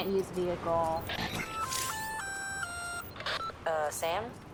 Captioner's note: radio call